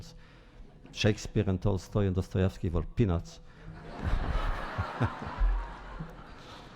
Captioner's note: laughter